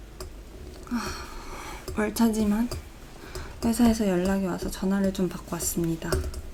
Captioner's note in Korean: 한숨